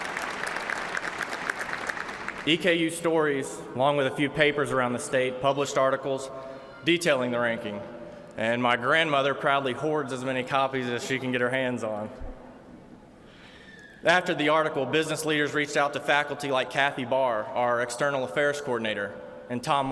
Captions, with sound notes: [ APPLAUSE ] EKU STORIES, ALONG WITH A FEW PAPERS AROUND THE STATE, PUBLISHED ARTICLES, DETAILING THE RANKING. AND MY GRANDMOTHER PROUDLY HOARDS AS MANY COPIES AS SHE CAN GET HER HANDS ON. AFTER THE ARTICLE, BUSINESS